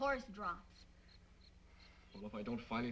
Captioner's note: insects chirping